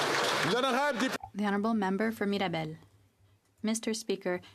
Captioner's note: some Applause